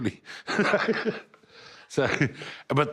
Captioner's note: laughing